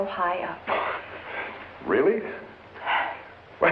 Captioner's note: sighs